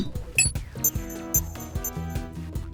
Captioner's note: beeping